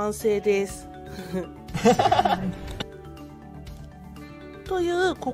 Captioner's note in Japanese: 羽生結弦の笑い